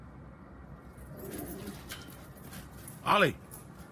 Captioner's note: dog growls